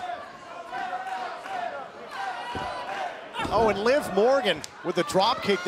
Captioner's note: crowd cheering